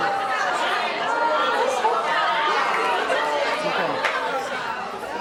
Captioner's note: audience exclaims